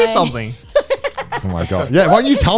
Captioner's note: laughing